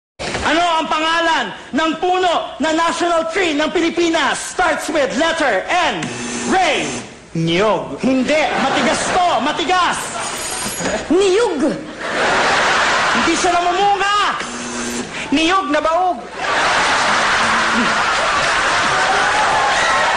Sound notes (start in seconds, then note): 5.9 bzzt; 10.2 ringgg; 14.3 bzzt